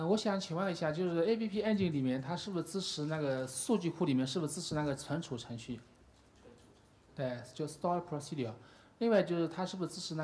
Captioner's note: speaking in Chinese